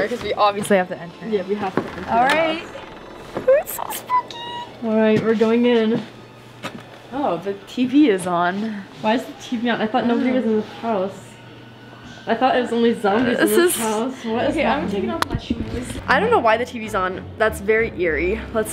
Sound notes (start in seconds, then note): 1.2 door creaking